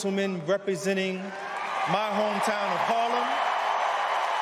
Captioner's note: cheers and applause